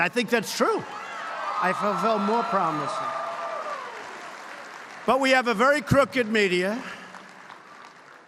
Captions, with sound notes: I think that's true. (Applause.) I fulfilled more promises. But we have a very crooked media.